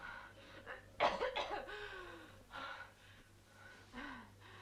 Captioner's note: Hundra coughing